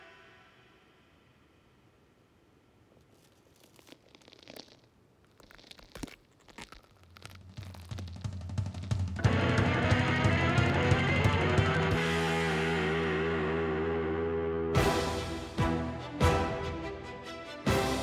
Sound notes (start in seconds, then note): 2.9 joints crackling; 9.2 energetic music; 14.7 triumphant music